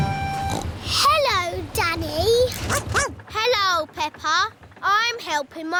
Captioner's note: snorts; barks